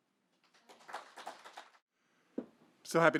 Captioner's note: audience clapping